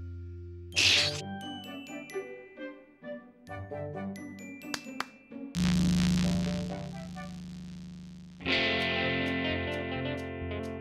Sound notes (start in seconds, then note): 0.8 slurps; 4.6 claps; 5.5 loud static; 8.8 electric guitar plays